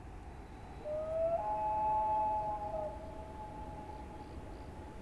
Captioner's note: bird calling